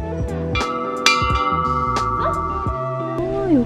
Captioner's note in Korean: 참으로 좋아하는 #풍경소리